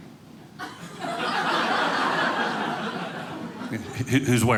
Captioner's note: audience laughing